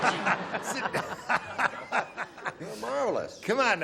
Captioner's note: laughter